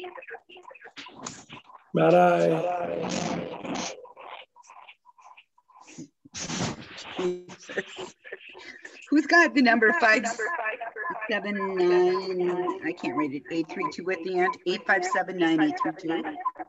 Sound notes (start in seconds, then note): 0.2 echoing; 3.1 echoing